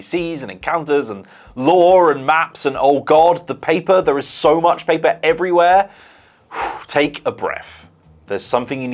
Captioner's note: phew